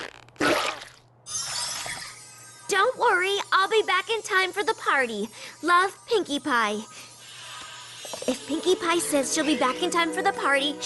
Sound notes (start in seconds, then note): none